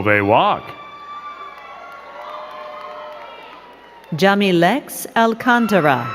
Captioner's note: crowd cheering and clapping